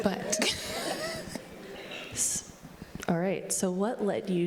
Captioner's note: laughing